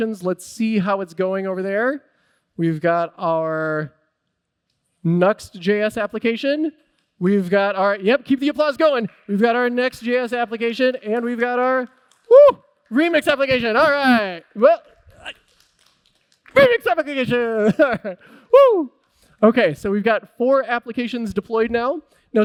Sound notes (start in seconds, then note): 8.8 applause